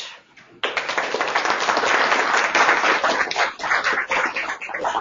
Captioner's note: audience clapping